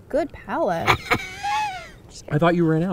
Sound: laughing

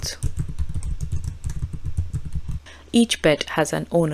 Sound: keyboard clacking

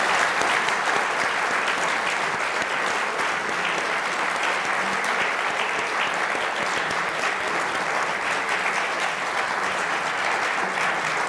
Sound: applause

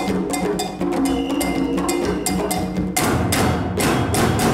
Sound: whistle blows

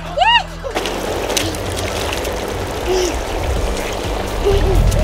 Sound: water splashing

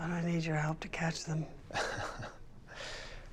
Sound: laughs softly

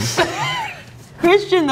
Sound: people laughing

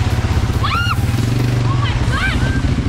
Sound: shout

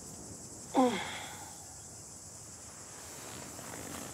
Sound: grunts

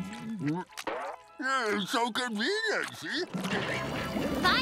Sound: chuckles

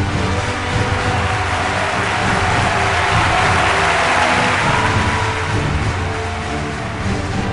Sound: cheering

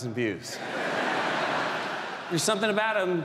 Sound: audience laughs

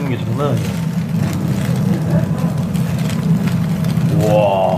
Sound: sizzling

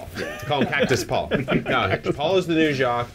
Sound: they chuckle

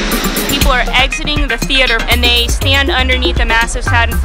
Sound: voiceover

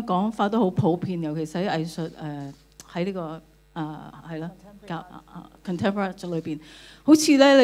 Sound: Cantonese

